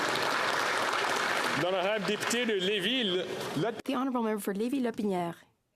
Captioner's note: applause